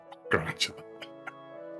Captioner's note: laughs